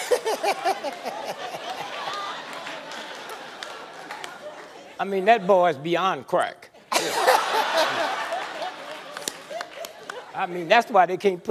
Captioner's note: laughter